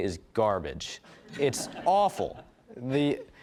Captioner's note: audience laughing